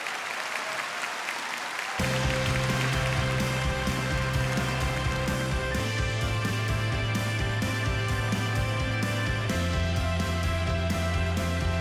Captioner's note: applause